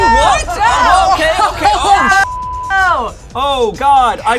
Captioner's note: beep